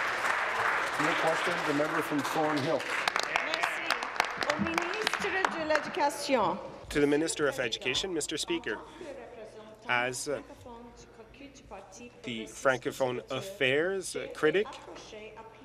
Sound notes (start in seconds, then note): 3.6 applause; 9.6 speaking in French